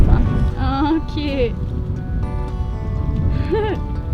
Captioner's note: giggling